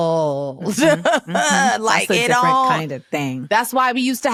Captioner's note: laughs